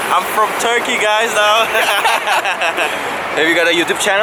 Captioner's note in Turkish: kahkahalar